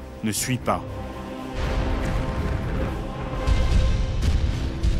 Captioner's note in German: Kanonenschüsse